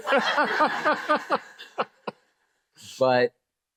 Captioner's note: laughter